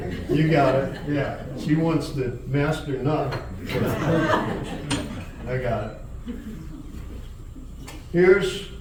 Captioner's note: laughter; more Laughter